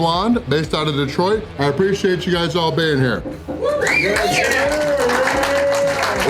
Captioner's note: cheering